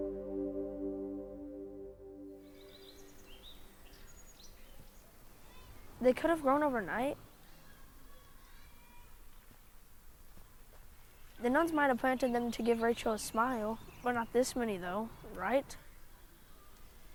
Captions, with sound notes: (birds chirping) - They could have grown overnight. The nuns might have planted them to give Rachel a smile. But not this many though, right?